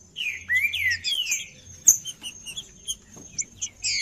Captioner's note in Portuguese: trinca ferro cantando